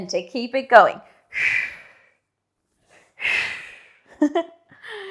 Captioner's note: breathing sharply